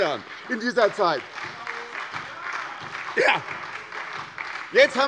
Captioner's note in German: Beifall bei der SPD